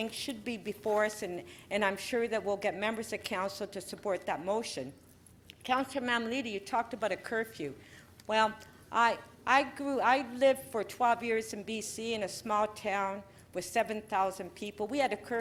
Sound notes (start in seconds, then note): none